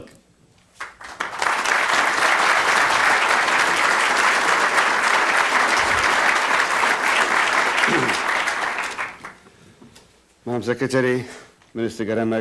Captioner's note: applause